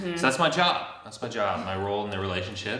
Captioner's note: chuckles